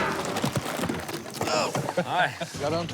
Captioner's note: chuckling